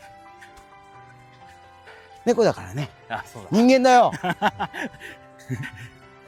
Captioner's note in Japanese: 笑い